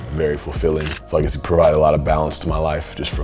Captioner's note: camera shutters